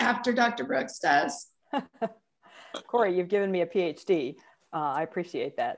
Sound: chuckles

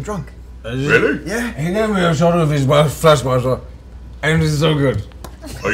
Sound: slurred

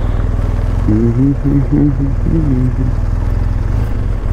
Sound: humming

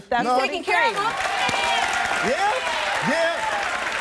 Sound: audience applauding

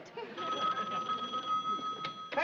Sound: rings

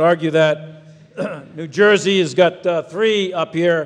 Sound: people chuckle

